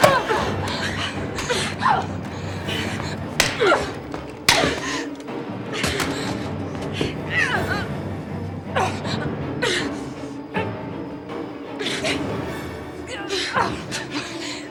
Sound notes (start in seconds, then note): 0.3 groaning; 3.4 punches striking; 6.4 dramatic music; 9.0 struggling